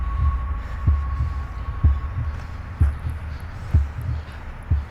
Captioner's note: heartbeat pumping